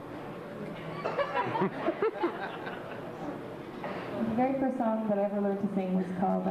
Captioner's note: laughter